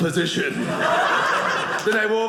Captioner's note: audience laughing